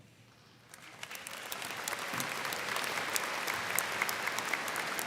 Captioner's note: students clapping